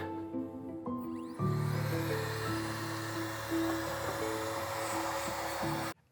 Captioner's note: air duster screeching